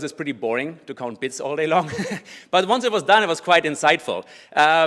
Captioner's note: laugh